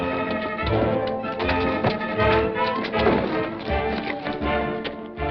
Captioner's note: dramatic music; punch thuds